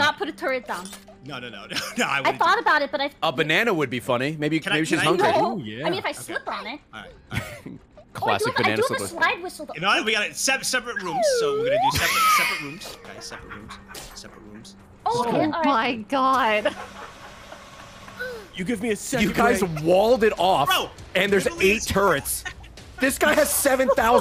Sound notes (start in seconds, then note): 7.3 laughs; 14.1 slide whistle noise